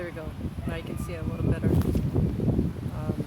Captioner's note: dog yelps